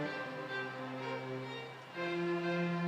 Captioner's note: none